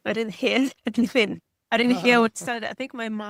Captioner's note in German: lacht